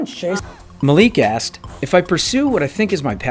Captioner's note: voiceover